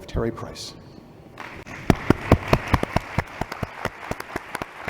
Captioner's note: applause